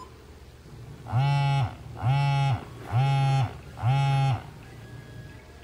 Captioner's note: phone Vibrates